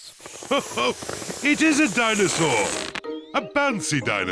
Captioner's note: laughs